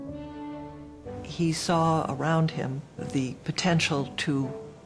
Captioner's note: voiceover